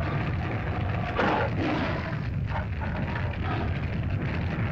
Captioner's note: fire crackles; lizard grumbles; lizard growls; fire crackles